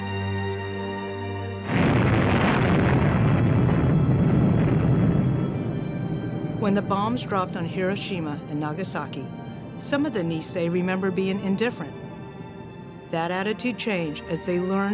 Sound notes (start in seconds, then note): 1.4 somber music; 5.4 planes flying